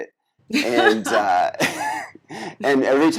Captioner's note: laughs